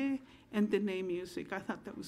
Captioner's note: speaking in foreign language